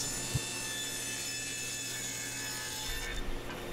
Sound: saw buzzing

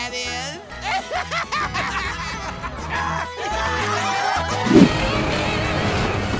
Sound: laughing

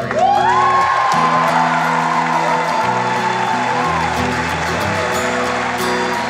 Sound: audience cheering and applauding

